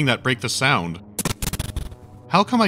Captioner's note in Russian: непонятный глитч со звуком